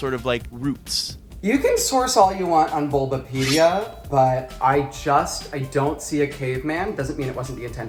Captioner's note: knife sound